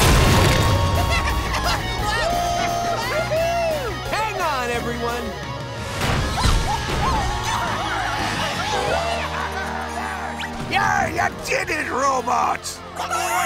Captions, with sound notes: [laughing] Woo hoo hoo! Hang on everyone. Yeah, you did it robots!